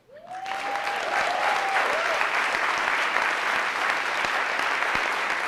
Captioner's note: audience applauding and cheering